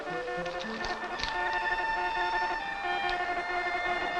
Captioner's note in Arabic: صوت صفير مورس